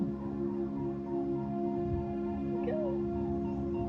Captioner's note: swan sound